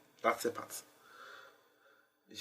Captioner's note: inhales